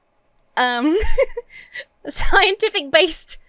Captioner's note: laughs